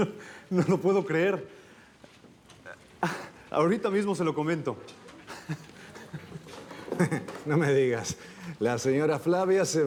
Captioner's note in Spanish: Risas